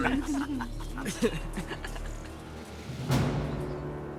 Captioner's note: laughter